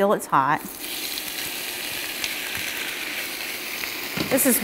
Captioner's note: shrimp sizzling